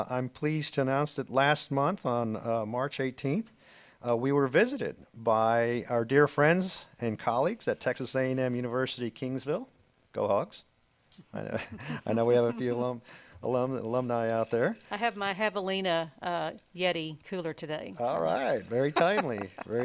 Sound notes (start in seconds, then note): 11.5 laughing softly; 18.1 laughing